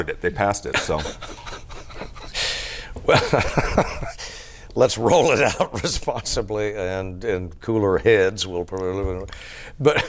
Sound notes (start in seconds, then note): 3.0 laughter